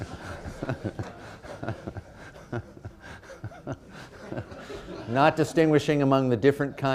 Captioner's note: laughter